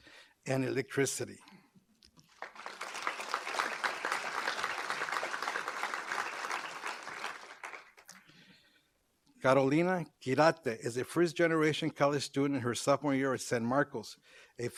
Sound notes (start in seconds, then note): 2.2 applause